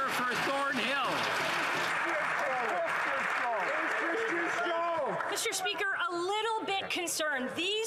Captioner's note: applause